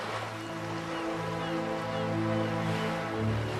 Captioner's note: seagulls cawing